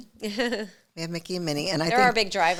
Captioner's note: chuckling